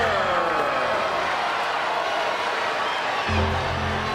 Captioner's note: crowd cheering